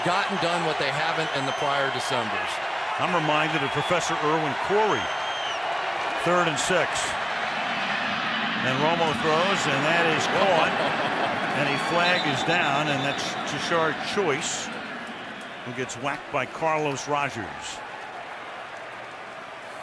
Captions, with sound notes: and gotten done what they haven't in the prior Decembers. I'm reminded of Professor Irwin Corey. Third and 6, and Romo throws and that is caught. [laughs] And a flag is down. And that's Tashard Choice who gets whacked by Carlos Rogers.